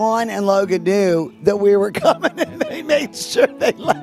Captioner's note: laughing